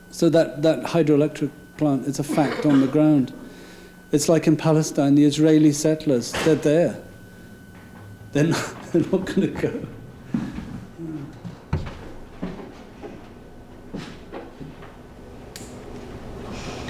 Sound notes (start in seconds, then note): 8.3 laughing